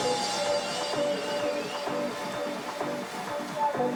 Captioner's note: crowd cheering; soft tech music